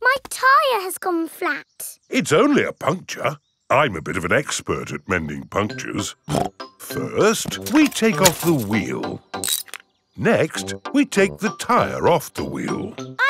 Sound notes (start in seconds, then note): 6.3 snorts